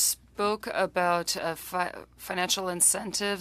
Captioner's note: speaking French